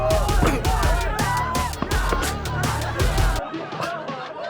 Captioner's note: thudding; Danny laughs